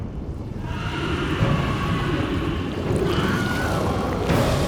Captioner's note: people screaming